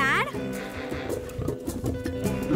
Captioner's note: growling